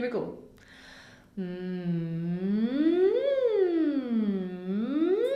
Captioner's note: humming